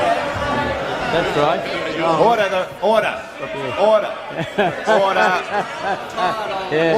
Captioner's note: chuckles